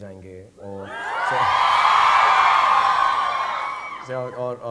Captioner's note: audience cheering